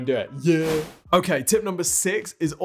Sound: screenwipe whooshes

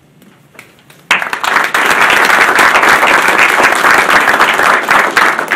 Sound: audience applauding

